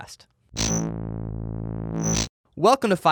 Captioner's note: buzzing effect